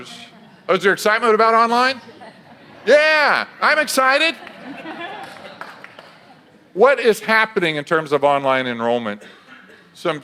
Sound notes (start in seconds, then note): 4.6 audience laughs